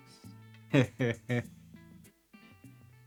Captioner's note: laughing